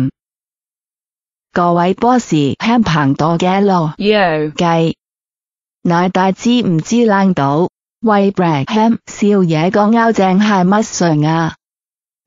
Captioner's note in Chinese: 啞巴喊